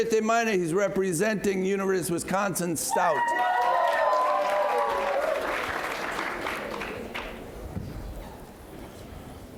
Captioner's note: cheers and Applause